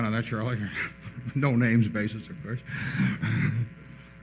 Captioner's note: laughs